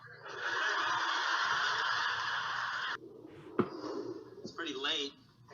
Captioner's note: audience laughing